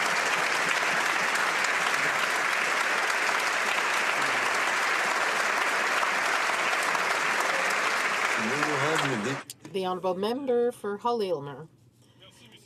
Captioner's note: applause